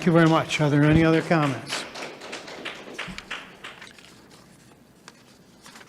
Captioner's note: attendees applauding